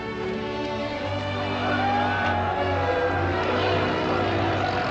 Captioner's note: cheering